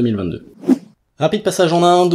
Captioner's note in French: Son de transition